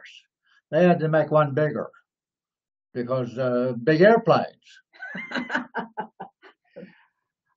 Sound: laughs

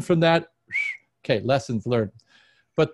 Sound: whistles

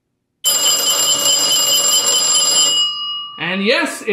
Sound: trouble bell sounds

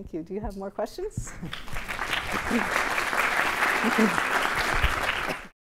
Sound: applause

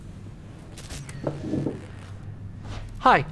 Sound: logo buzzing

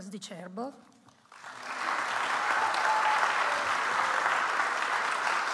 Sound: audience applauds

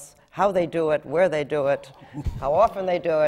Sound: laughter

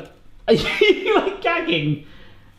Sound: laughing

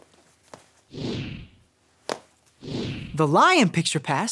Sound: picture passes swooshes

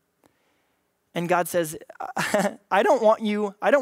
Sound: laughs

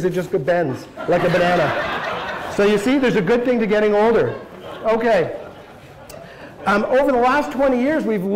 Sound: laughter

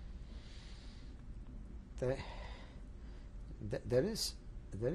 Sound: sighs

